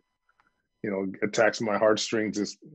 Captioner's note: soupirs